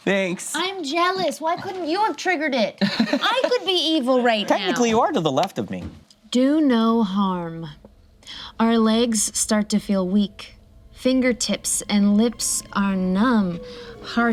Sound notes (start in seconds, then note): 2.8 laughs